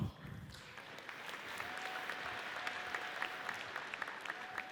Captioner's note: audience applauds